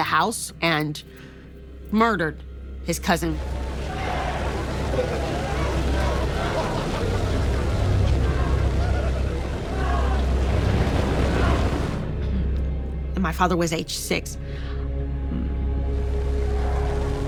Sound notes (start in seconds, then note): 6.4 fire crackling; 7.1 chanting